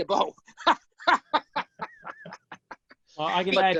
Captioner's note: laughs